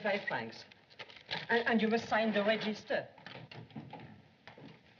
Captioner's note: door Opens